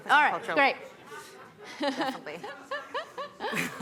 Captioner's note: laughter